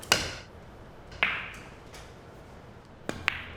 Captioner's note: clicking